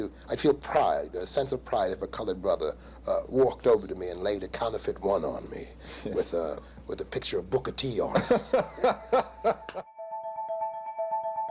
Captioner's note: laughter